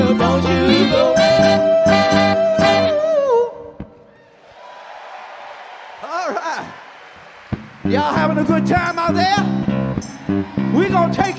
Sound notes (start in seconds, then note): 4.2 audience cheer and clap; 9.0 mid tempo music